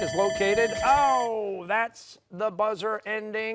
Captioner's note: timer sounding